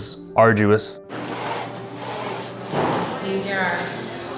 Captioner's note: machine pumping